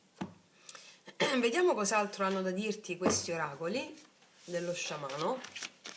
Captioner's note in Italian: schiarire la voce